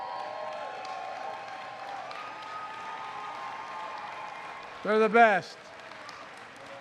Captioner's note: applause